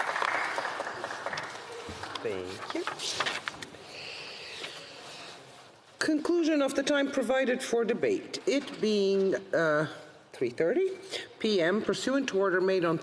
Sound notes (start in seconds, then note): 2.4 some Applause